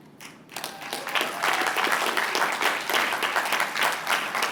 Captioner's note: applause